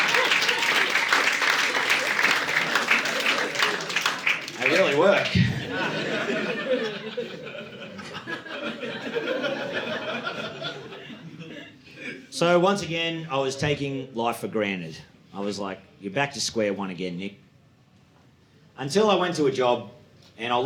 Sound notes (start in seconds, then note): 5.6 audience laughing